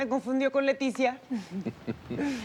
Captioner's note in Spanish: Risas